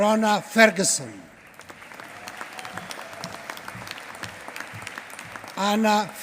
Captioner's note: applause